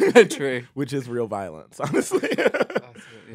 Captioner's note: laughs